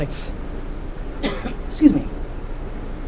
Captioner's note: coughing